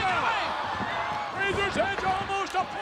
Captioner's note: spectators exclaiming